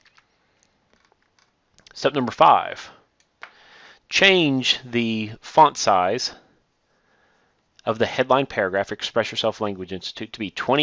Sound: click

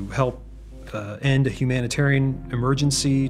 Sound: none

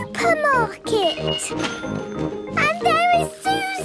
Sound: cash register dinging

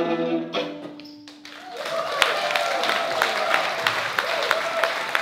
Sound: cheers, applause

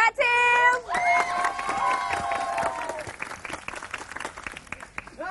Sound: applause

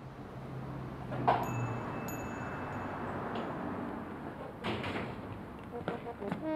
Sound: door opens

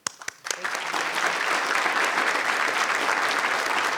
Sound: audience applauding

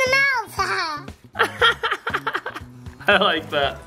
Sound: laughing

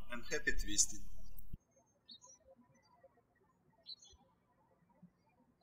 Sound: birds chirping

